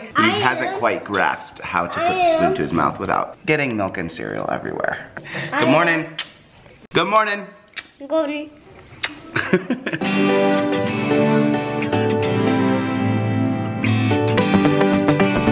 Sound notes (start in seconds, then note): 9.0 laughing; 10.0 upbeat music